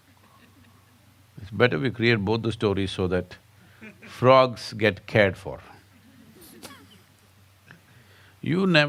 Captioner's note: laughs